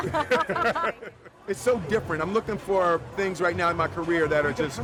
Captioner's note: laughs